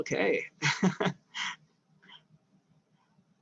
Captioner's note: laughs